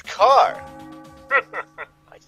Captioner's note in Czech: smích